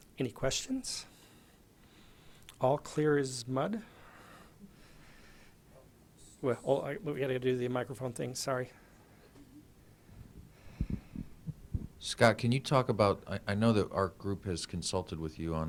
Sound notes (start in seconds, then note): 12.1 voiceover